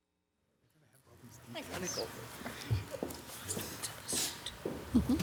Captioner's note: people chattering